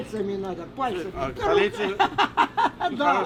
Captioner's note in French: rires